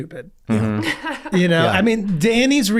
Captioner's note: laughs